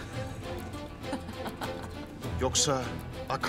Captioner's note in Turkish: Gülme sesleri